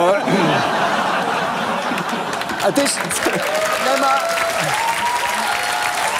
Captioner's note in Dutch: gelach en applaus